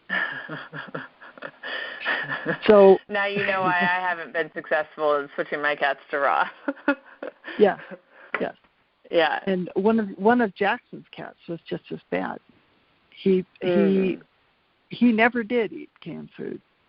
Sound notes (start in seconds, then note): 0.2 laughs; 6.4 laughs